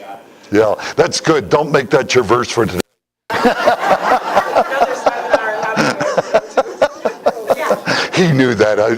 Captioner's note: Смех